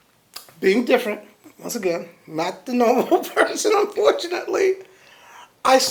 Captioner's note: laughs